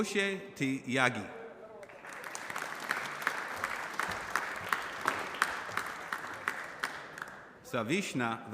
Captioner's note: applause